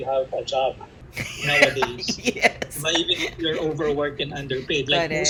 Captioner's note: laughter